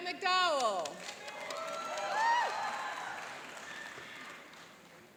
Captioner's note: cheering and applauding